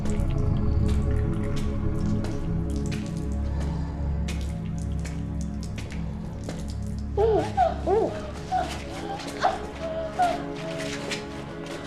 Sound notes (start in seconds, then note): 7.2 crying